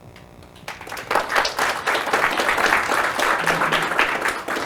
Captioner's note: audience applauding